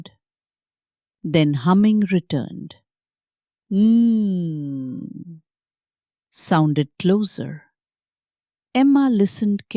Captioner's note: hums